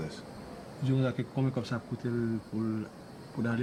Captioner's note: speaking Haitian Creole